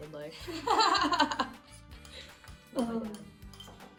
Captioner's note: student laughing